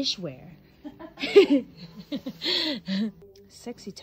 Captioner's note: both laughing